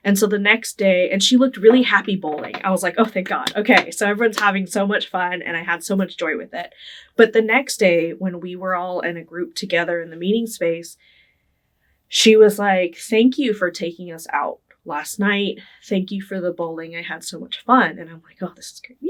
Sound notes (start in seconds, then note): 3.3 clapping